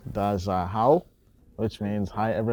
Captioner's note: speaks in foreign language